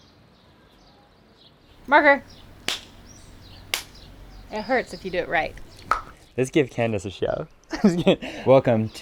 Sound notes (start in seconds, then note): 2.6 claps; 5.8 tongue pops; 8.6 laughing